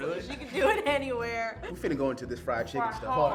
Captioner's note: laughs